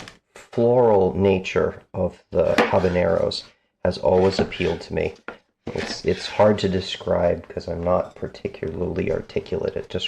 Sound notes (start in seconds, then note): none